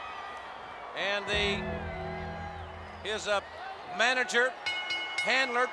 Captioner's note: bell dinging